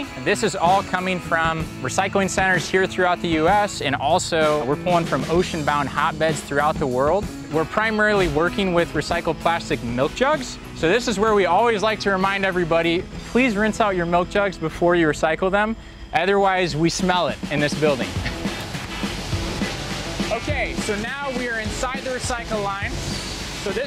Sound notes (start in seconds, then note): 18.1 laughs; 18.5 upbeat rock music